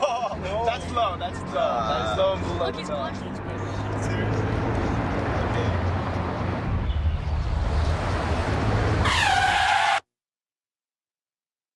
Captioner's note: brakes squealing